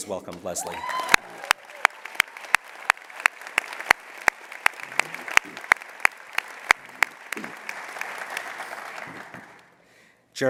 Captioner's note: applause